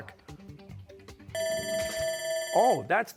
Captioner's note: bell ringing